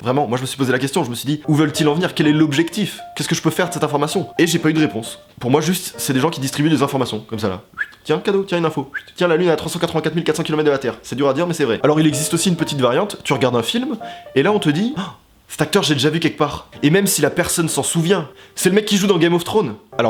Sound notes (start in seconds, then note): 14.0 gasp